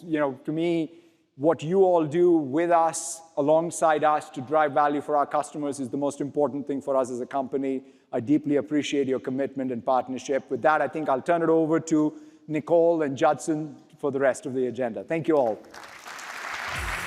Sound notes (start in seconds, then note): 15.3 applause